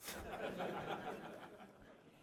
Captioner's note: laughter